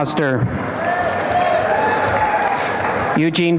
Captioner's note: applause and cheering